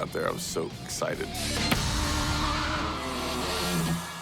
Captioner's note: crowd cheering